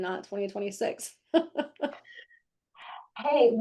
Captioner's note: laughing